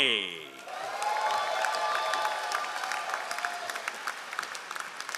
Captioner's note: all applauding